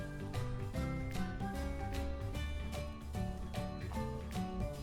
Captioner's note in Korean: 노이즈 약간 발생